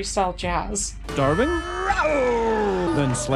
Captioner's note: bonk